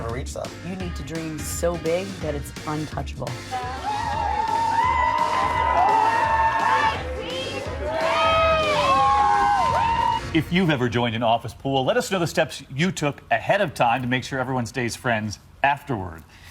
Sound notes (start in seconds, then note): 3.5 cheers and applause